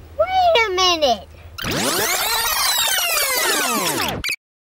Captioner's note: video rewinds